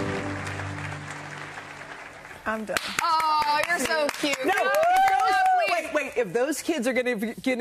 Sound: applause

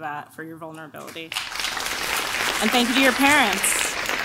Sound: clapping

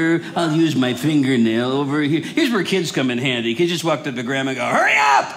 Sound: none

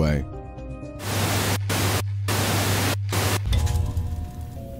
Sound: TV static

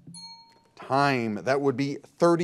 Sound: bell dings

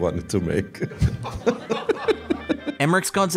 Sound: laughing

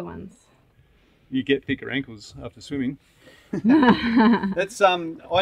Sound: laughs

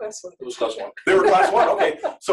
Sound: laughter

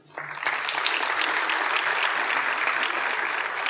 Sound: applause

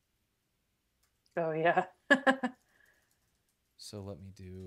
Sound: laughs

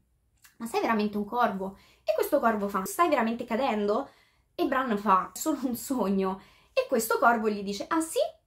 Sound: translating in italian

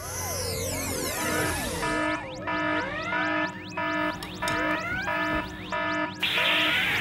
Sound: alarm!

